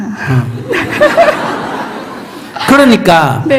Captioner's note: questioner / Audience Laughter